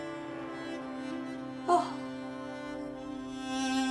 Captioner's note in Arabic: جين تلهث